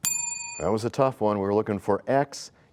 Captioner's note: bell rings, time expires